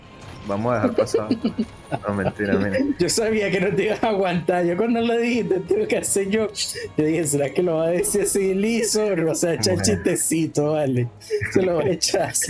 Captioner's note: laughs